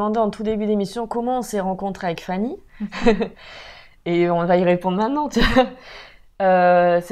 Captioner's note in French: rire